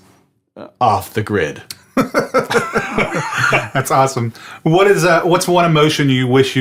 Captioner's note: laughs